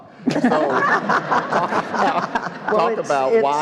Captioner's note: all laughing